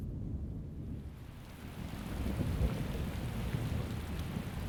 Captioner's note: rain pattering